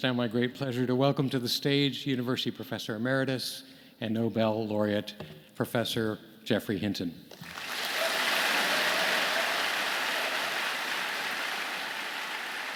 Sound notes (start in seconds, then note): 7.3 audience clapping